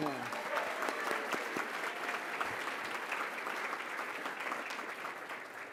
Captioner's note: applause